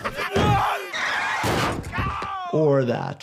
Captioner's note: Homer screaming; car screeching